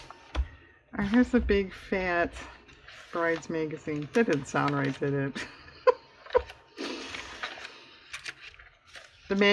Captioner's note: laughs